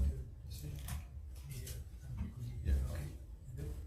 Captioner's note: speaking away from mic